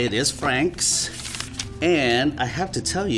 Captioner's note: turning pages